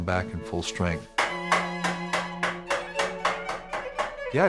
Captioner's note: hammering